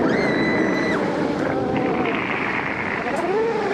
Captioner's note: screaming